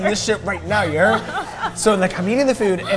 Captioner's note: both laughing